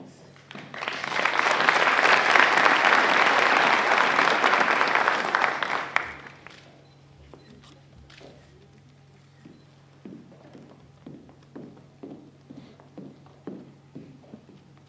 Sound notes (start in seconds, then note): 0.3 applause